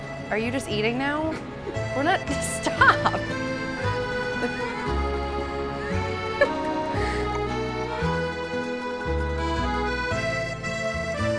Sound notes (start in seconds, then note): 3.4 laughter; 8.0 italian music